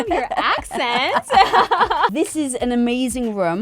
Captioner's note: laughs loudly